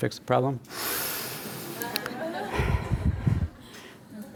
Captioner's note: audience laughs